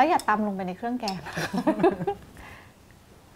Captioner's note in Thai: เสียงหัวเราะ